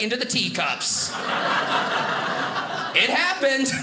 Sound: audience laughing

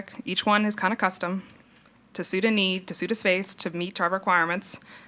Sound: none

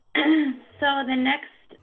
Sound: coughing

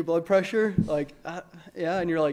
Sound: hesitant stutter

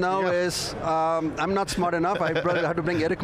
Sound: laughing

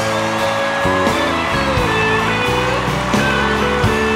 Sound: cheers and applause

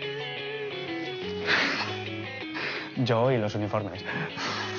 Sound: laughs

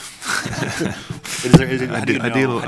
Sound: laughs

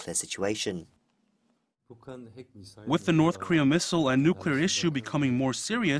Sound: Korean

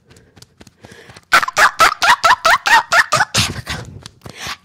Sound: beating Chest

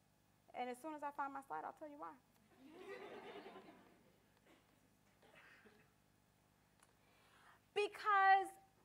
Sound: audience laughter

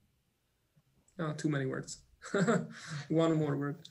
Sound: laughs

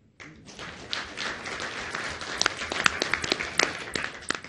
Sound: audience applauds

